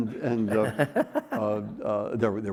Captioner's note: laughing